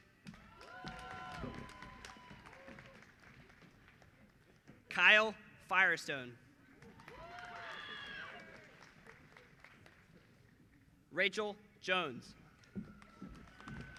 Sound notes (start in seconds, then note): 9.6 applause